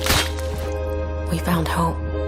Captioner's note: squelching